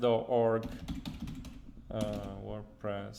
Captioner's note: keystrokes